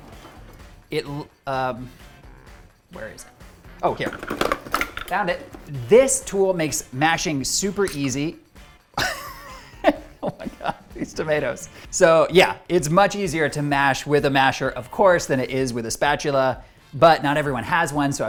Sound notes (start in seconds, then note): 0.0 drawer opening; 3.9 utensils rattling; 8.0 tomatoes popping; 8.9 laughs